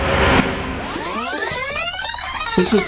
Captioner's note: recording squealing